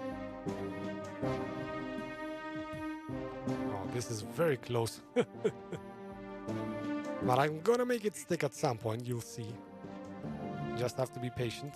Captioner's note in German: lacht